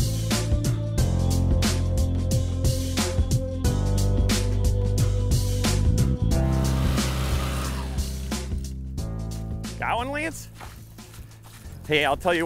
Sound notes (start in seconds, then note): 4.2 auger motor